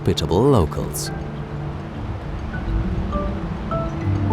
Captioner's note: rushing water